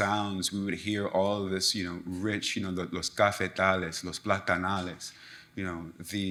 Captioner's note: speaks in Foreign Language